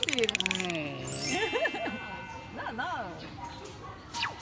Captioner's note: laughs